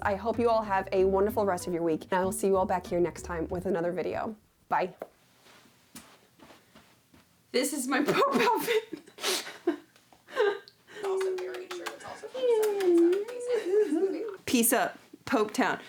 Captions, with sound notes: I hope you all have a wonderful rest of your week. And I'll see you all back here next time with another video. Bye. This is my pope outfit. (laughs) - Also very true. It's also a good set. - Mm, mm, mm, mm, mm. - Peace out, Pope Town.